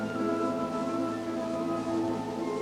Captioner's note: none